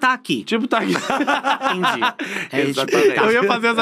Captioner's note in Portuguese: risos